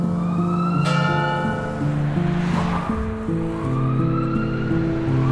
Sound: bell chiming; emergency vehicle siren ringing

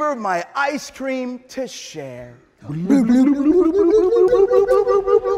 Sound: both blubbering

